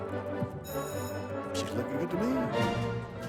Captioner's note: bell rings